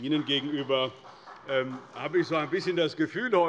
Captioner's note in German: Beifall des Abg